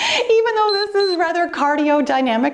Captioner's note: timer beeps